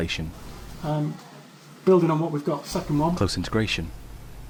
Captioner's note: voiceover